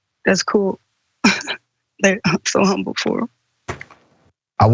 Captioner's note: laugh